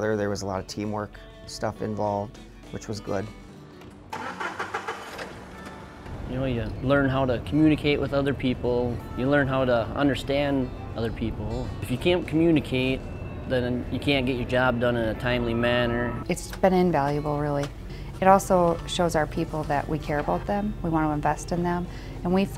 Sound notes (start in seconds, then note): 4.1 engine revving